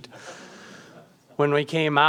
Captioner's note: audience chuckles